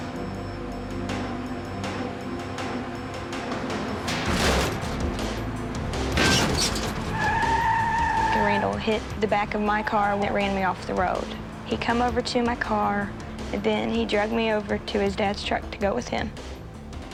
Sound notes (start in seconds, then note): 4.2 crashing